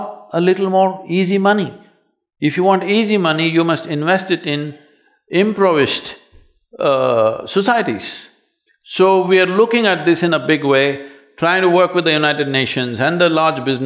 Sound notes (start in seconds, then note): none